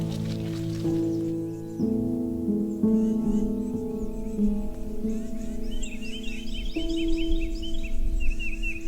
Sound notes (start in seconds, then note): 1.9 birds calling